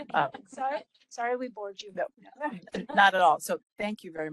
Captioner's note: laughing